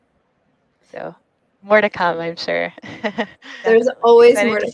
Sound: chuckles

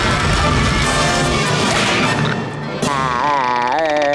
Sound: screaming

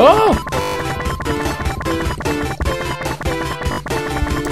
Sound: Tails whirring; video game scrapes

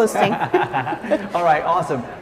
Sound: laughing

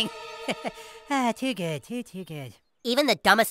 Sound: chuckles

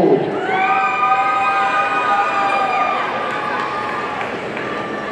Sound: audience cheering

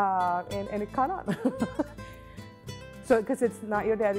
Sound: laughs

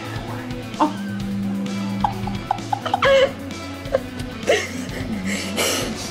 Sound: laughs

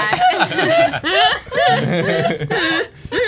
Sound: laughter

